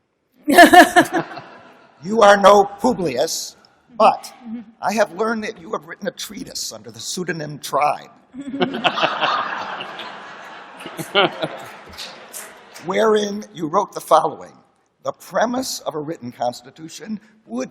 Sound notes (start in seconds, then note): 0.5 laughter; 8.4 laughter